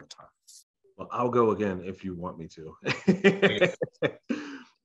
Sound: laughs

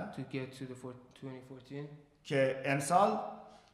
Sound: speaking in farsi

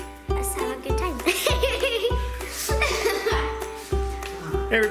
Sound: laughing

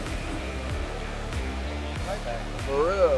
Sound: players chatting

